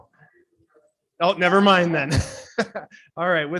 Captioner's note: chuckles